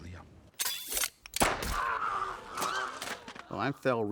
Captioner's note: metal springing noise; sheriff screaming